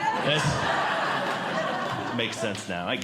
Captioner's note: audience Laughing